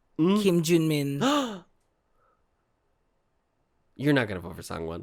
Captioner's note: gasp